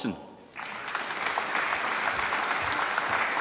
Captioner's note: applause